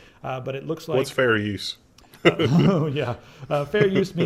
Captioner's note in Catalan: riures